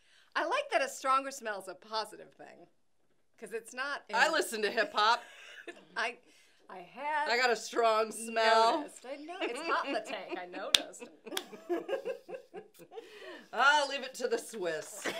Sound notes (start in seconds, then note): 5.1 laughing; 11.0 laughing; 11.3 clapping